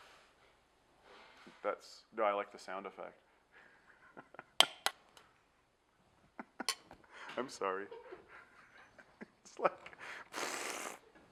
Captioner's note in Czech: člen štábu smrká